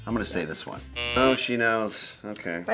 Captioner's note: buzzer ringing